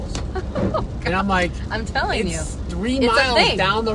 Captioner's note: chuckles